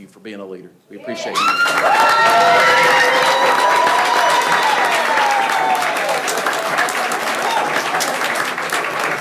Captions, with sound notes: Thank you for being a leader. We appreciate. - Yeah. (people cheering) (people clapping)